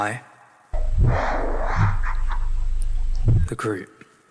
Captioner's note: difficult breathing